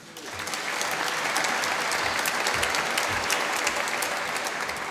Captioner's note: applause